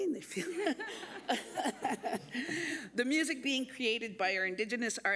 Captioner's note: laughter